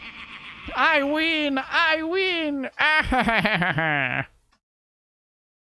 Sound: Wario impression laugh

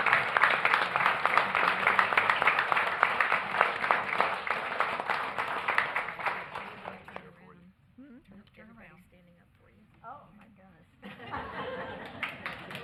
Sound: applause

